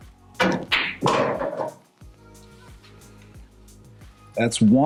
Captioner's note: balls clanging